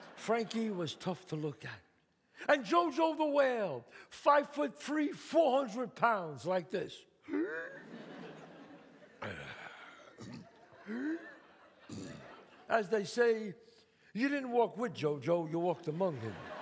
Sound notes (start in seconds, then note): 7.1 breathes heavily; 9.2 breathes heavily, grunts